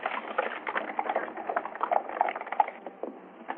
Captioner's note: horses galloping